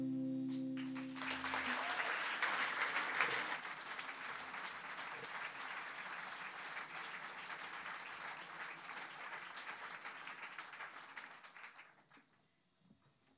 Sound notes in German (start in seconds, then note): 0.8 Applaus